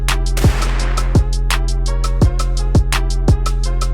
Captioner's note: gun fires